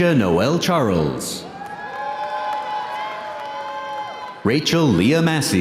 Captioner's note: audience cheering